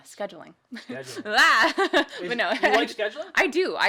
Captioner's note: laughs